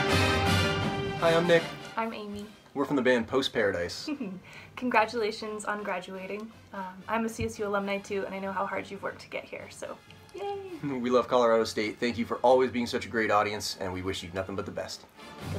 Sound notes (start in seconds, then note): 4.0 giggles; 10.9 chuckles